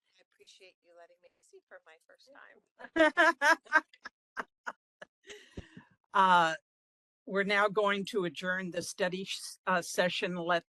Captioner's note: laughing